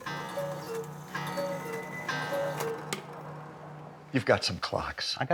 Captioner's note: clock cooing; clock bell toning